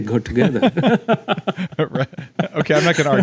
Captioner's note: both laugh